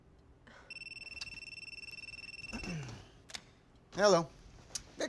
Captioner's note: telephone ringing